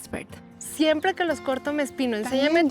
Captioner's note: speaking Spanish